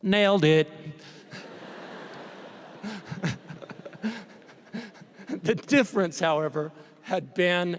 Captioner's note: laughter